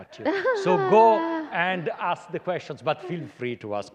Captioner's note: laughter